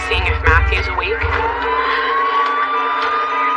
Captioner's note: sirens ilil